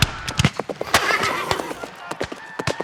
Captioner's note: gunshots cracks; footsteps plodding; horse whinnying; gunshots cracks